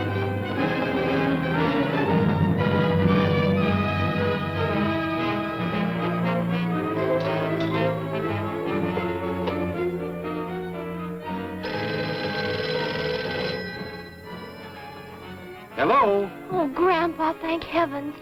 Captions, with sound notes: [ DRAMATIC MUSIC ] [ COINS CLANGING ] [ PHONE RINGING ] - Hello? - Oh, grandpa, thank heaven!